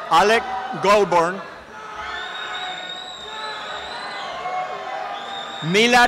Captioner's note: applause and cheering